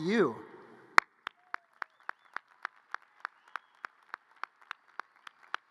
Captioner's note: audience cheers and applause